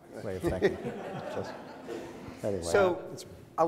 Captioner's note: audience laughs